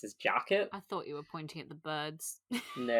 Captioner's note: laughs